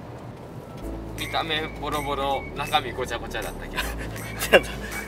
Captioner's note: laughs